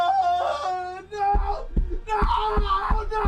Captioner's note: punching the floor